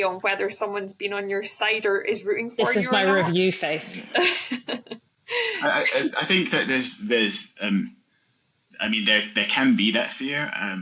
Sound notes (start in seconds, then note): 4.0 laughs